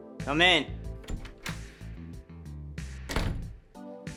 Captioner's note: door opening and closing